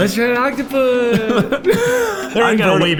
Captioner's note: both laughing